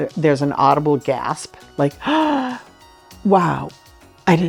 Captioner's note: gasps